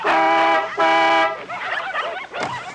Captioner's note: honking